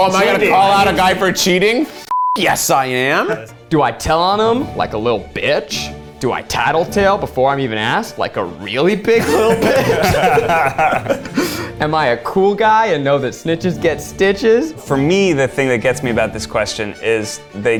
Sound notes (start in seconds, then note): 2.0 beep; 9.1 all laugh